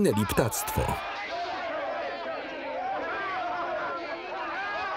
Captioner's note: soldiers clamor for food